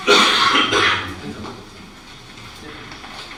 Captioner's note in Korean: 기침; 목을 가다듬음